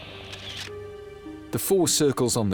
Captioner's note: in German; camera shutter clicks